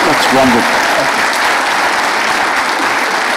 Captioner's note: applause